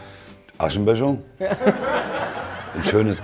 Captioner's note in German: Gelächter